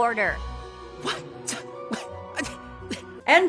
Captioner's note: confused flustered noises